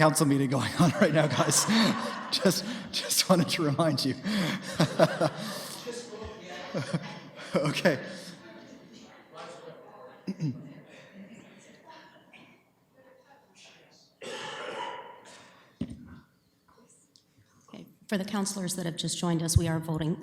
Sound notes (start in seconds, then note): 2.5 audience laughs; 4.2 laughing